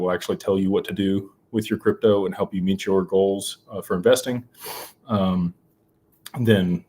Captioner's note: snorts